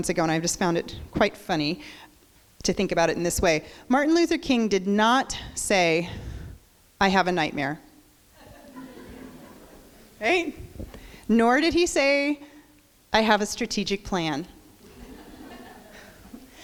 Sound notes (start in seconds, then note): 8.4 crowd laughs